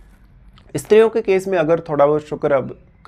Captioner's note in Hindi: नाक से की जाने वाली आवाज़